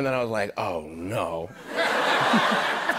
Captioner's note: laughter